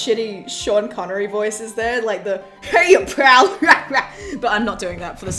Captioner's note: exaggerated laughter